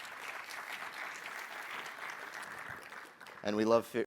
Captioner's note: applause